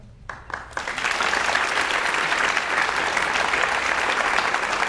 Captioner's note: audience applauds